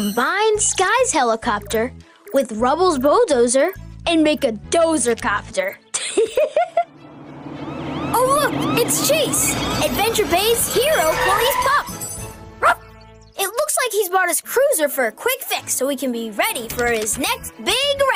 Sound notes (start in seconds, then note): 5.6 laughs; 6.8 sirens Blare; 12.6 Chase Barks